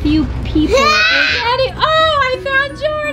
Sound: kid screams

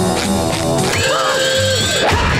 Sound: alarm sounding

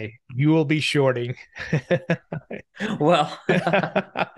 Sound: laughing

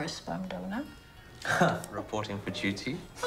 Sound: scoffs

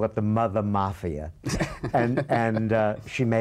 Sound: laughter

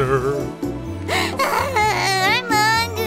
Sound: crying

